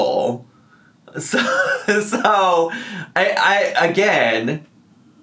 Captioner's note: laughs